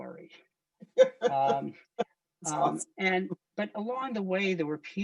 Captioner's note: laughs